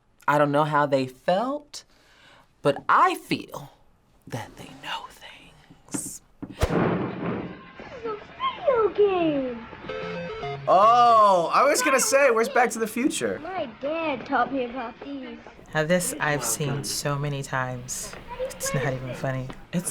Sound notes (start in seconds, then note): 4.0 whispers